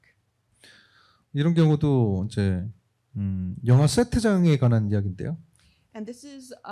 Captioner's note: speaking korean